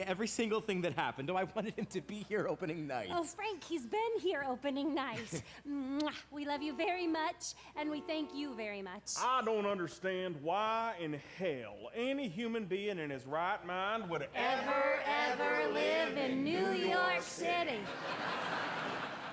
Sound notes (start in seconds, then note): 5.2 frank chuckles; 7.8 cab horn honking